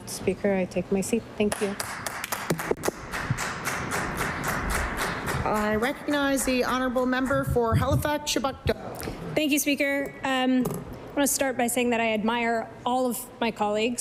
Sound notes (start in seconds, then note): 4.8 applause